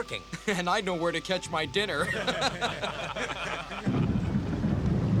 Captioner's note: all laughing